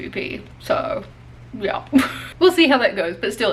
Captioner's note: laughs